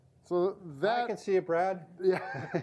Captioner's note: laughs